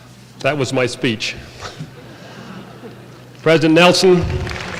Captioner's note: laughter